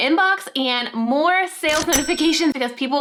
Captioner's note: cash register dings